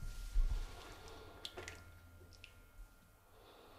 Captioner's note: quiet splashing